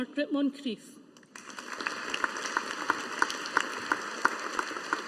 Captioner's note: audience applauding